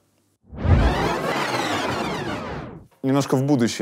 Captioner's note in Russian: звук перемотки